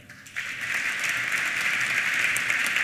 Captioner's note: applause